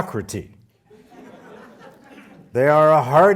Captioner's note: audience laughing